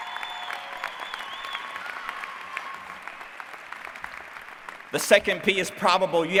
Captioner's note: applause